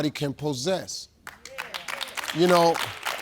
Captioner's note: audience clapping